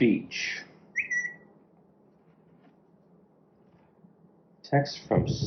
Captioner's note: notification whistle